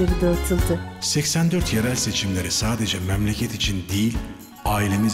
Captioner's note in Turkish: Ahmet dış ses